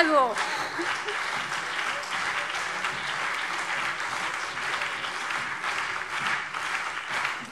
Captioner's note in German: Heiterkeit und Beifall CDU und BÜNDNIS 90/DIE GRÜNEN